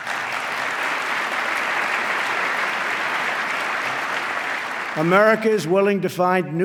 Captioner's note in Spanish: aplauso